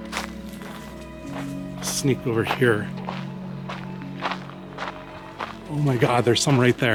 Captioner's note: footsteps